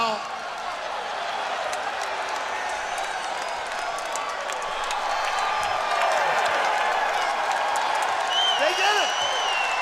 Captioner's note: crowd cheering